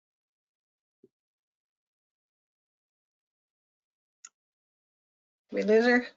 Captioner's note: silence